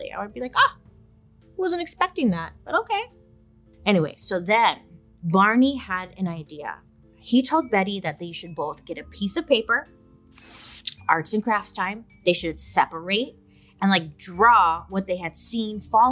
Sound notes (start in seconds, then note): 10.4 paper rips